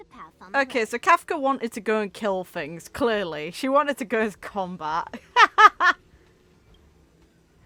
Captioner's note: laughs